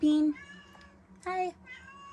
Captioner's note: meows; meows x2